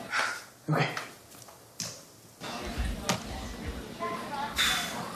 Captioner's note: takes deep breath